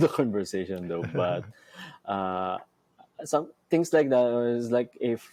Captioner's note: chuckles